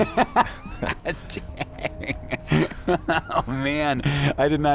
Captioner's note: laughter